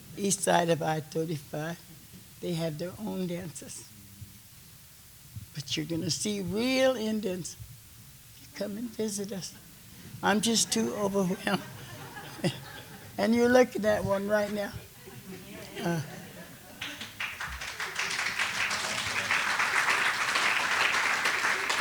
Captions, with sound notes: East side of I-35, they have their own dances, but you're gonna see real Indians. Come and visit us. I'm just too overwhelmed. And you're looking at one right now. (laughter and applause)